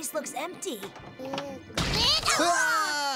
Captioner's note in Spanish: gritan